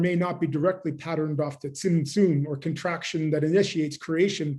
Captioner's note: german; german